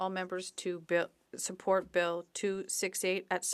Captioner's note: speaking French